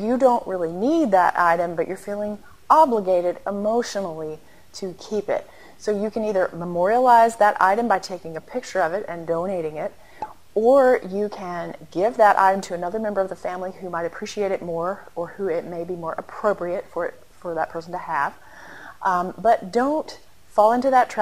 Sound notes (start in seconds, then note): 10.2 pop